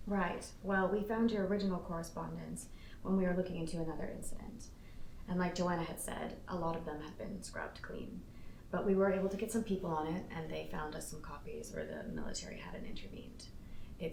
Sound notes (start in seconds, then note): none